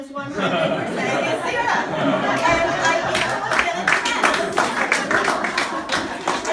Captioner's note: audience laughing and clapping